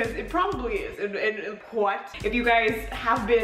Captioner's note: stammers